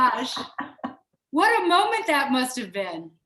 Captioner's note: laughing